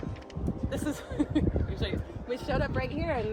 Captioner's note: giggling